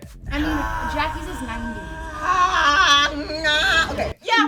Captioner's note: groans